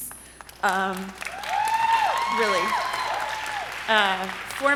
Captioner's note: audience cheering